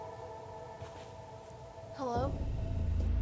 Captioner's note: eerie female sound